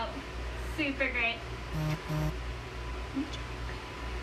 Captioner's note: phone vibrates